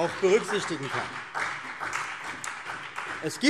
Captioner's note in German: Beifall CDU und BÜNDNIS 90/DIE GRÜNEN